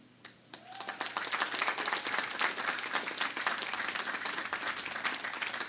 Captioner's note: audience applauding